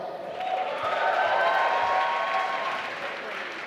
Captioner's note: applause